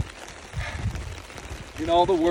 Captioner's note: sigh